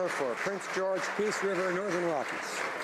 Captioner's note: some Applause